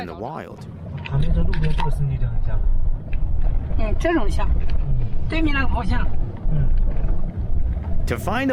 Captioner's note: speaking Chinese